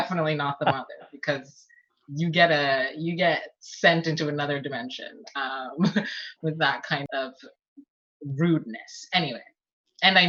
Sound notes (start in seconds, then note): 0.2 laughs; 5.6 laughs